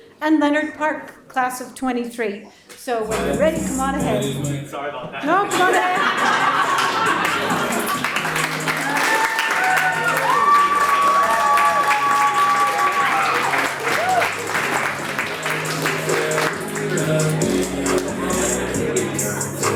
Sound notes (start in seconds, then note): 5.2 audience laughs; 9.3 audience applauds